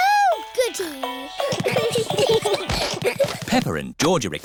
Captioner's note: all giggling